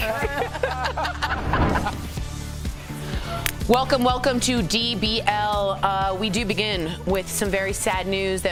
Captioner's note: laughter